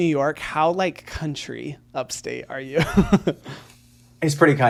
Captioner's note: laughs